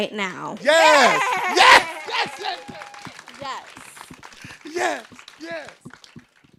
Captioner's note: group cheering